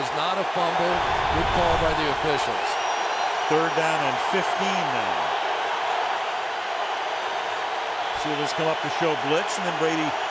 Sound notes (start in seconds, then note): 5.8 crowd cheering